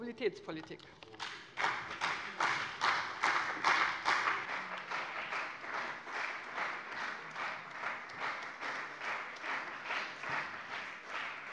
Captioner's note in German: Beifall bei dem BÜNDNIS 90/DIE GRÜNEN und der CDU